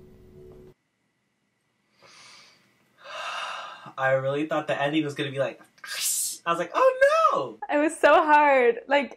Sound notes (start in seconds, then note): 3.0 sighs; 5.8 hisses